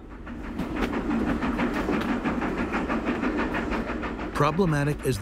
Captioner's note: train chugging